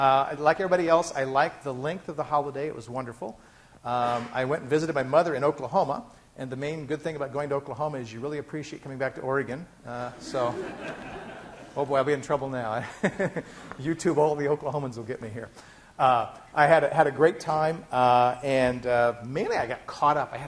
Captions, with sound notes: Like everybody else I liked the length of the holiday. It was wonderful. I went and visited my mother in Oklahoma and the main, good thing about going to Oklahoma is you really appreciate coming back to Oregon, so... [class laughing] Oh boy I'll be in trouble now. [laughing] YouTube, all the Oklahomans will get me here. I had a great time and, mainly I got caught up.